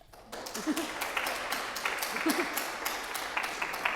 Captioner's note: audience clapping